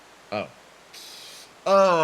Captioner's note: inhale